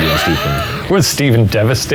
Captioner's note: laughing